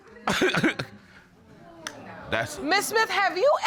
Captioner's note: chuckles